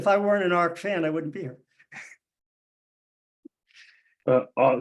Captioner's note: laughs